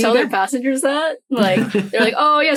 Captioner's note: chuckles